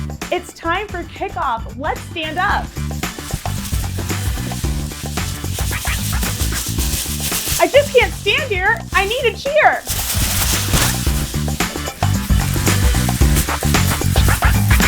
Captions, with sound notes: - It's time for kickoff. Let's stand up. (upbeat music) (pom poms rustling) I just can't stand here. I need a cheer! (upbeat music) (pom poms rustling)